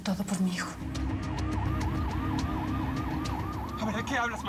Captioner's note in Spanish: sonido de sirenas